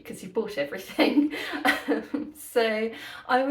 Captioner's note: laughing